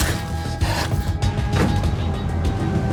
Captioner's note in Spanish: Sonido al abrir y cerrar la puerta